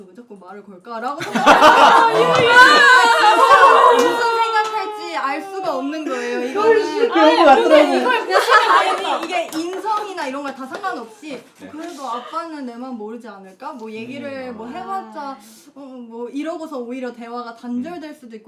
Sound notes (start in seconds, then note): 6.6 crying